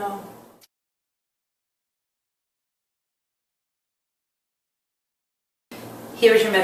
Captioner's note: silence